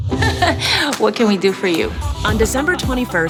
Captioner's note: laughs